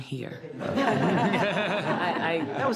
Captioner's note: all laughs